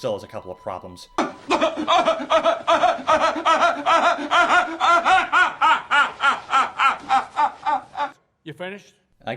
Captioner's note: Patrick Stewart laughing like the Joker